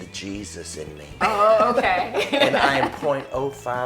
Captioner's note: laughs